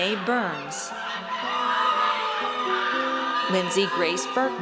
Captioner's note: audience cheers